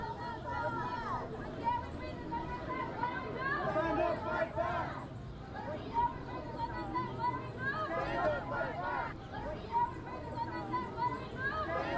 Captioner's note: protest chanting